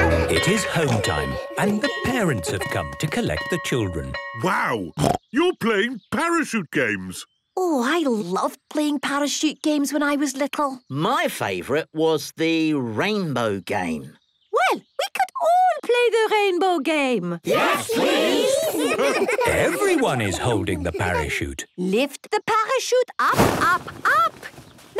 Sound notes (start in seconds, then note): 0.7 laughter; 4.7 snorting; 18.6 laughter